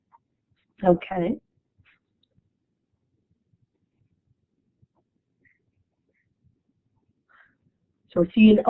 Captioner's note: silence